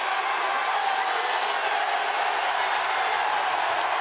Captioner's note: crowd cheers